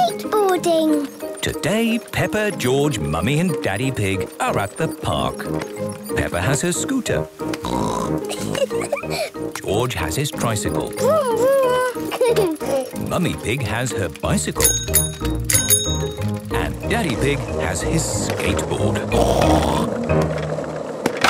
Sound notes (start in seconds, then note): 7.6 snorts, giggles; 10.9 giggles; 14.5 bicycle bell dinging; 18.8 snorts